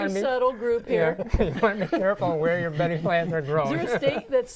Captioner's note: laughing